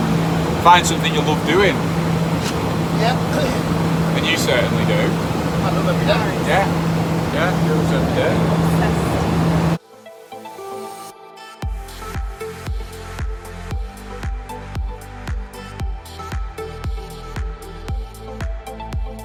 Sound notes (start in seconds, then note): 3.1 coughs; 9.6 upbeat music